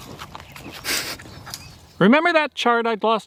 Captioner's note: man snickers